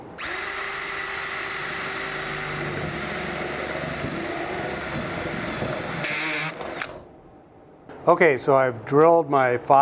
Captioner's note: drilling Sound